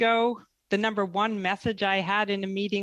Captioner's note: speaking French